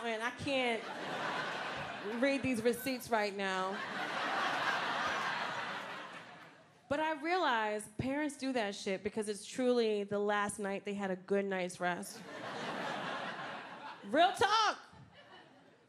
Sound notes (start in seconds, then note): 4.4 crowd laughing